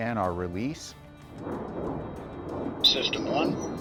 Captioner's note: airplane whooshing